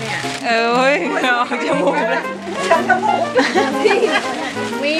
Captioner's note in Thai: เสียงหัวเราะ